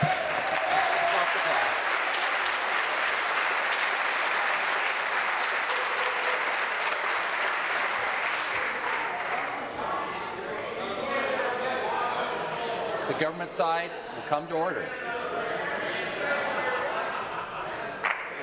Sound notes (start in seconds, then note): 4.5 applause